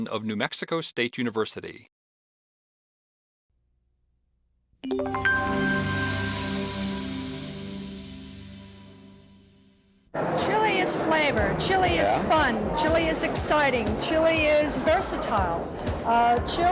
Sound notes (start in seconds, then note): 4.8 gentle chiming